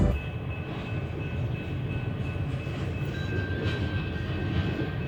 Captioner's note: train stop dinging